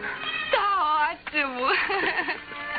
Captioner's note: laughing